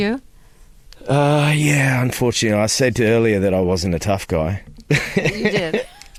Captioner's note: laughter